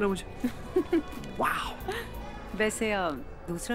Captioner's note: Ananya laughs